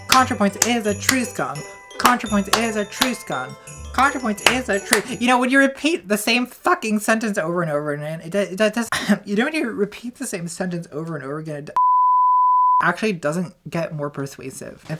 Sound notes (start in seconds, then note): 2.0 clapping; 11.8 beeps